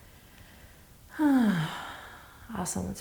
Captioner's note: sighing